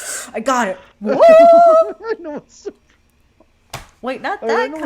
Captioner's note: laughing